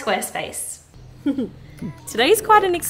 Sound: laughs

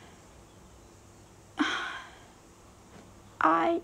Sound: sighs

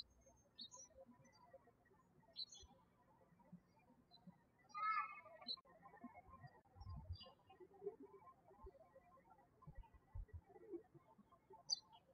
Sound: birds chirping

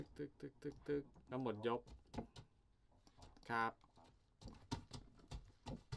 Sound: speaks in a foreign language

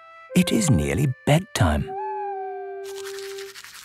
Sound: owl hooting

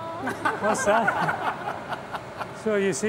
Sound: all laughing

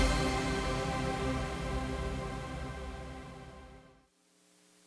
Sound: air whooshing

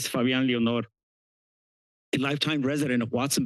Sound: pause

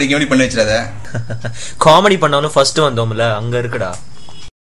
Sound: laughs

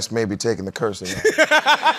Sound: laughter

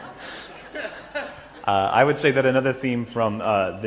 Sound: laughter

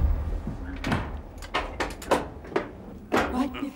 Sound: door opens, closes

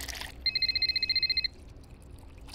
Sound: phone ringing

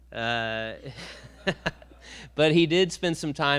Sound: a few laugh

